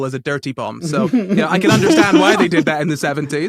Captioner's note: others laugh softly